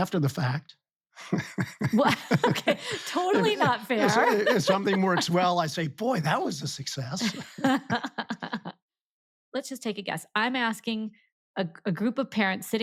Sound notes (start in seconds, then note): 1.2 laughs; 7.2 laughing